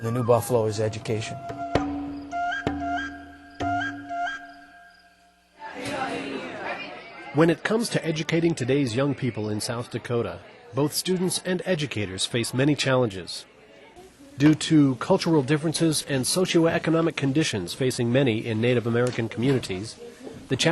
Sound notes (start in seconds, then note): 2.4 serene flute music; 5.9 students chattering